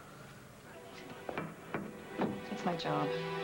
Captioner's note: knocking